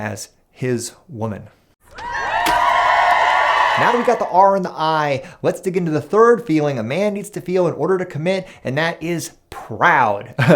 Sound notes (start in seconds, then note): 1.9 cheering